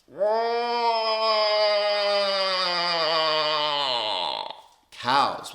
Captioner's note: imitates female moose sound